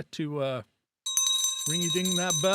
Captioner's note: bell ringing